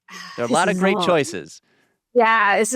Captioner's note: exhales